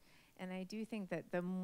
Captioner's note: none